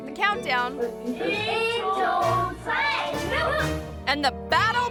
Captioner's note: children speaking in foreign language